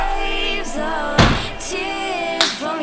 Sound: boot closes

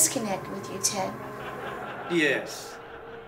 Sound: distant haunting laughter

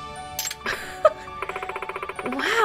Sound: chuckles

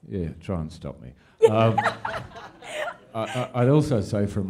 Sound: laughter

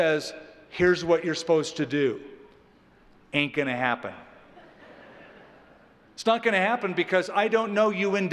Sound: laughter

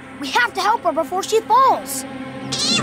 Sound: meowing

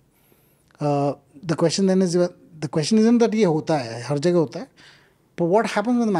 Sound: speaks in Hindi

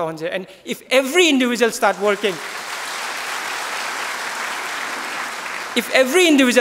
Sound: claps

